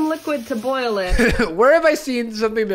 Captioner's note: laughs